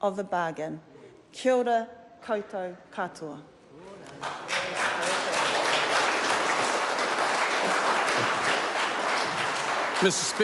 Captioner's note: applause